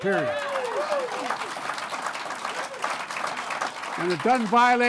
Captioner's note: applause